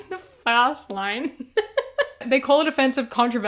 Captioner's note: laughter